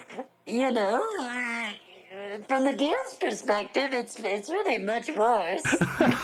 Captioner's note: laughter